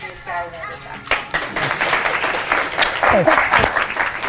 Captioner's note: applause